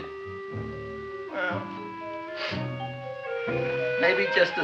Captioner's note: sniffles